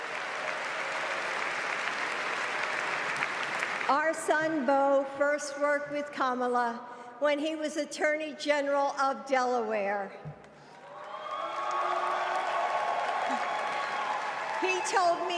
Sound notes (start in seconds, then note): 2.3 applause